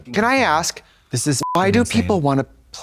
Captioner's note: beep